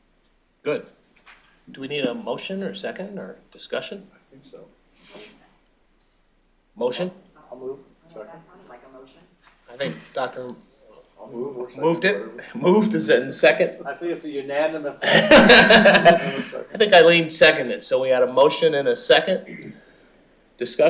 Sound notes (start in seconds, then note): 15.0 laughing